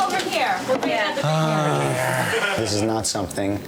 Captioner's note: sighs